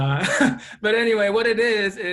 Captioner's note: laughs